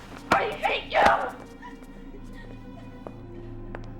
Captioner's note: angry screaming